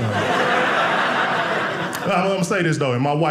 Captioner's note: audience laughing